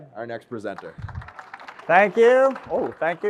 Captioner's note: audience applauds